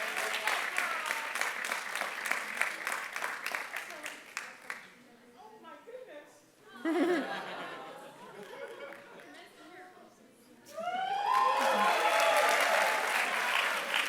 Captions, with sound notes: So awesome. Oh my goodness. [LAUGHTER] [APPLAUSE]